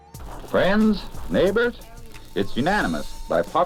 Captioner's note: radio Announcer